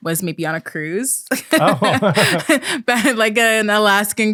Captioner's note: laughing